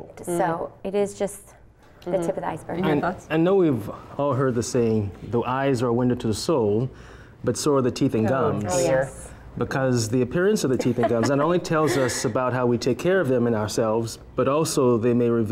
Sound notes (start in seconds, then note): 10.7 laughter